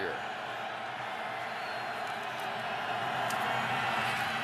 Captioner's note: cheering